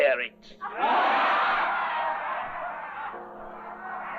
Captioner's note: crowd laughing